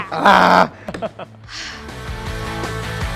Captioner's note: snarls; laughs